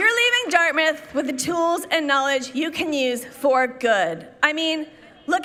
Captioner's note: applause